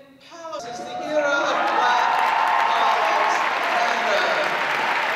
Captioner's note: audience applause